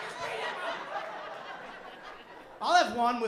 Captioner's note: laughter